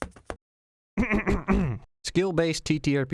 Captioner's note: clears throat